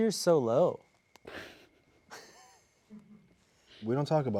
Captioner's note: crew laughing